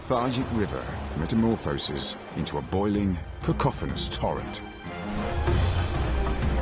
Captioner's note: water rushing; intense music